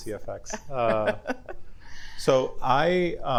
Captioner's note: chuckling